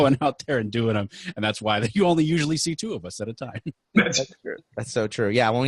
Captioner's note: laughing